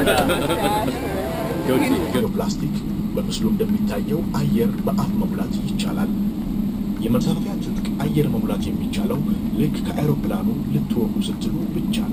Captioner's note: foreign Language